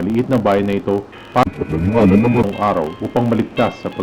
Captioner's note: murmurs